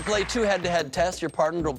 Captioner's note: cheers and applause